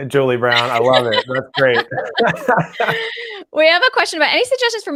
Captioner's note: laughs loudly